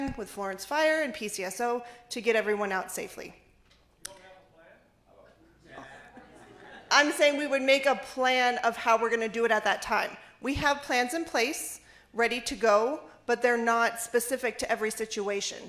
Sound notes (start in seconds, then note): 5.7 laughter